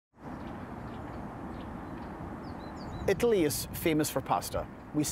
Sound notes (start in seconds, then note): 0.2 birds chirping; 3.0 with Scottish accent